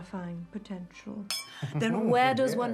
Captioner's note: glass clinking; men laughing